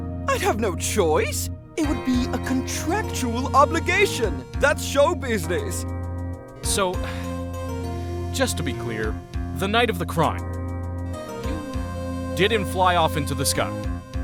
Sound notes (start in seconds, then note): 7.0 sigh